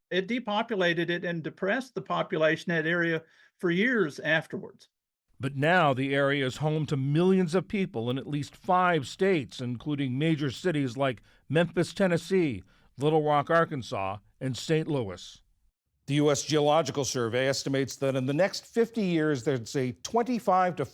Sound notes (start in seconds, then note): 5.8 voice-over